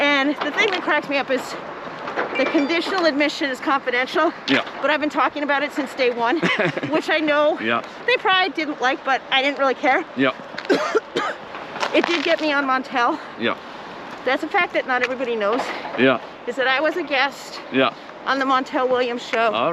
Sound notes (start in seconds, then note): 6.3 laughs; 10.6 coughs